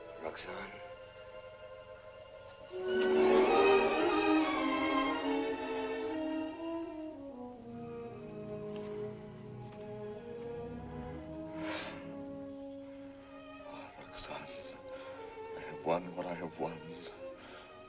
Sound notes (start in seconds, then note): 11.4 sighs deeply